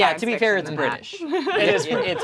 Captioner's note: laughs